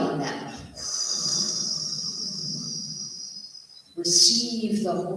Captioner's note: breath